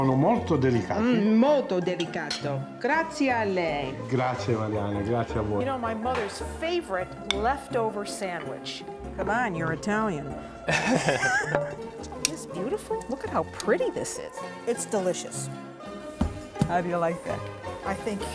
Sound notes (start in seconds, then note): 3.7 speaking Italian; 10.6 laughter